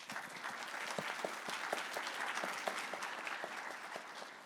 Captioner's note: audience clapping